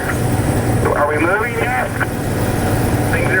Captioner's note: CB radio; CB radio respondent